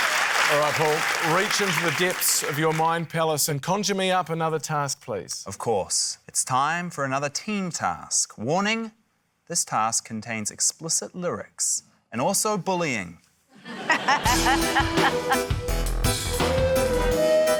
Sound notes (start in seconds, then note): 0.0 cheering, applause; 13.6 laughter; 14.3 tense music